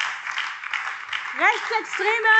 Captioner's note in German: Beifall BÜNDNIS 90/DIE GRÜNEN, CDU, SPD und Freie Demokraten - Zurufe AfD